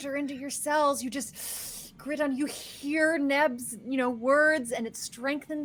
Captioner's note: inhales